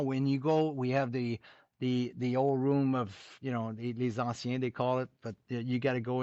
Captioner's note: french